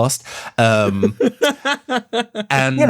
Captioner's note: laughs